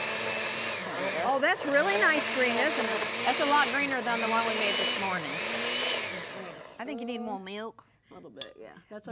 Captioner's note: blender grinding